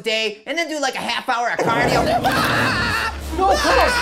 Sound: Cuddles growls, Bacon yells

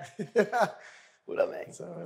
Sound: laughs

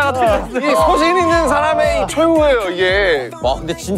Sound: crying

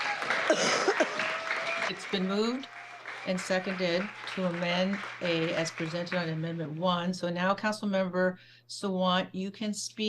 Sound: cheering

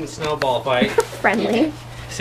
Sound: laughs

